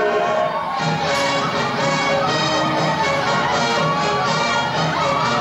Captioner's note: screaming and cheering